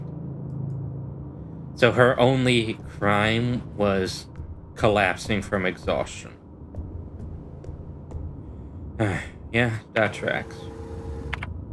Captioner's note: sigh